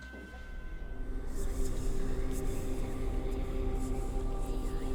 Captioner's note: eerie whispering